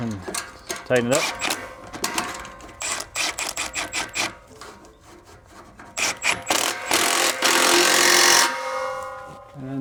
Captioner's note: drilling